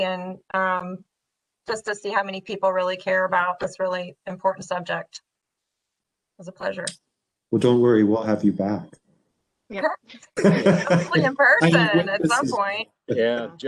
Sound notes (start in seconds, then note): 10.4 participants laughing